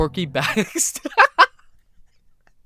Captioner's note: laughs